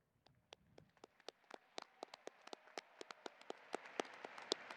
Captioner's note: audience applauding